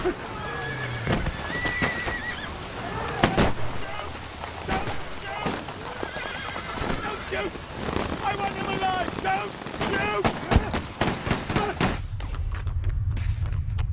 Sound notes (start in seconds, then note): 0.9 gunshots; 10.5 gunshots